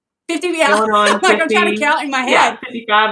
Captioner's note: laugh